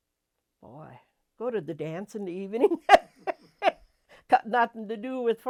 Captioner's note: laughs